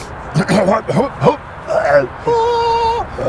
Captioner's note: coughs; makes singing noises